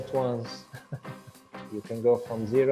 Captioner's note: laughs